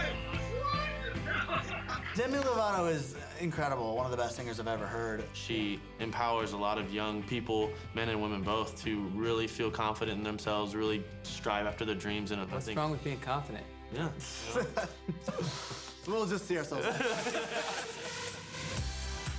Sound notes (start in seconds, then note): 15.1 laughter